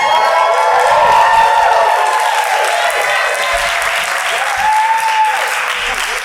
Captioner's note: applause